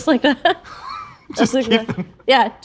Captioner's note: laughing